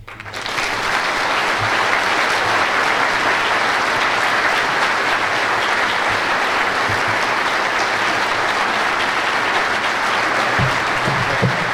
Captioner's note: applause